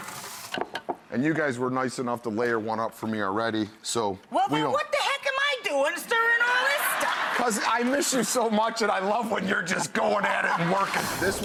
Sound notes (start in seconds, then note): 6.6 audience laughing